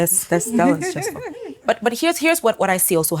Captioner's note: laughs